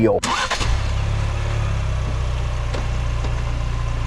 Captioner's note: engine revving